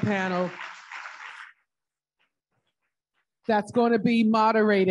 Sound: audience applauding

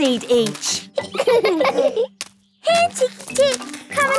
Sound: laughing

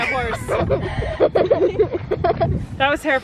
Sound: kids laughing

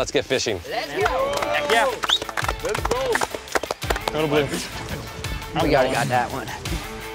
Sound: group cheers and claps

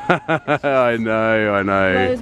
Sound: man laughing

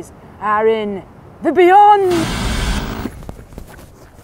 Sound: tv static buzzes

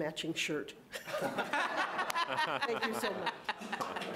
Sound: all laughing

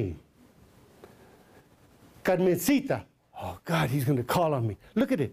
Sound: foreign language

